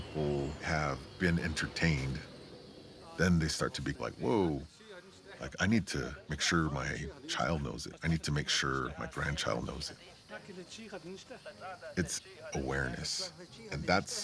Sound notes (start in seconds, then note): 10.1 "Star Wars" characters speaking Navajo